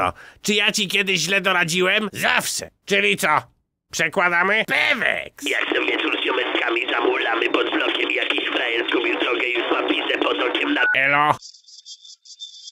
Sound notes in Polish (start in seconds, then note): 5.2 telefon dzwoni